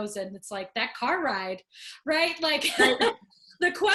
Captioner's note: laughing